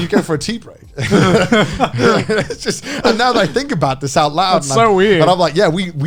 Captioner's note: laughs